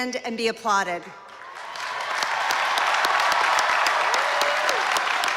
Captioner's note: applause